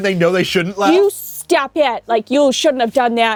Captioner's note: heavy Canadian accent